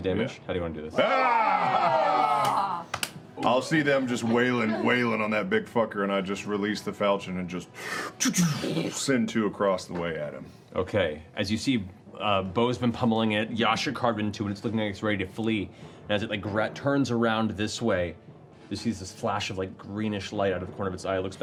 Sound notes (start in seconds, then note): 0.9 cheering